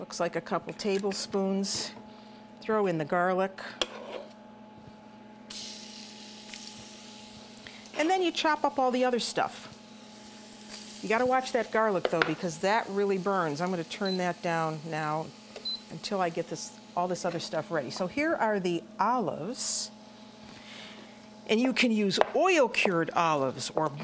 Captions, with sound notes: That looks like a couple tablespoons. Throw in the garlic. [sizzling] And then you chop up all the other stuff. You gotta watch that garlic though because that really burns. I'm going to turn that down now until I get this -- all this other stuff ready. So here are the olives and you can use oil cured olives